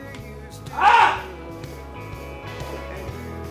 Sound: yelling

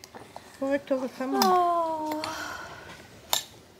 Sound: sigh

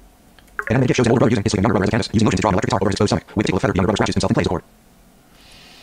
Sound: extremely fast speech

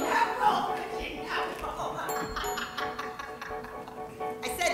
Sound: laughing

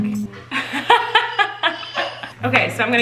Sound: laughs

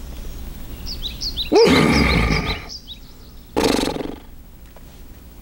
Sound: birds chirping; horse snorting

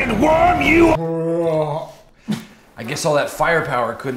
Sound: gagging

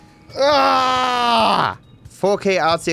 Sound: screams in anguish

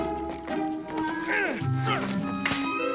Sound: moaning

